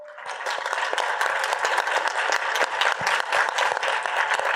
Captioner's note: audience applauding